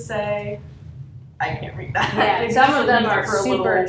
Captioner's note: laughs